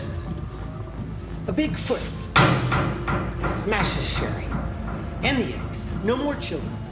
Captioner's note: hits the table